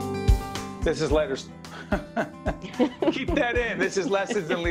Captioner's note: laughing